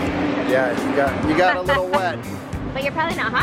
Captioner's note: laughs